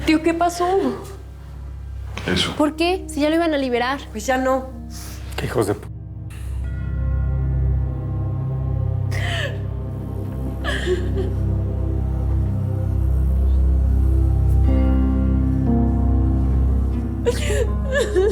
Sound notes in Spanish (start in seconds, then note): 3.9 Sollozos